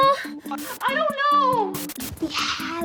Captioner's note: Blueberry whimpers; TV screen crackles